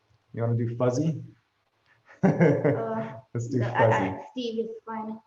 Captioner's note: laughs